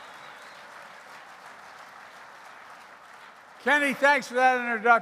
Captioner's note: applause